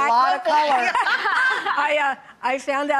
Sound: laughter

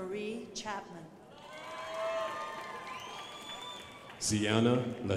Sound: crowd applauding

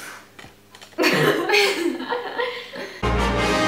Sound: both laugh

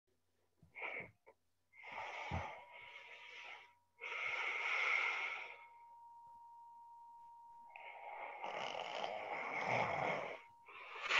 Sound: snoring

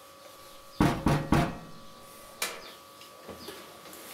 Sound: door knocking

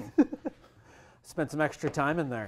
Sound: laughs

